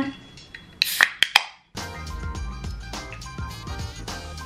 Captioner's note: can top pops